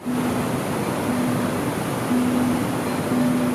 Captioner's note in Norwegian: lyden av en foss